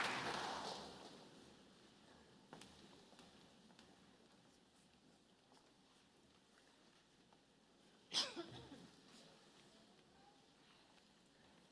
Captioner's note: applause